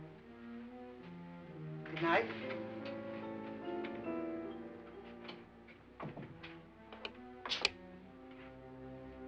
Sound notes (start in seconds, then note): 6.0 door closes